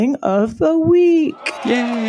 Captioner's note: applause